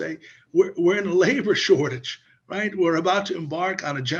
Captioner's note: laughs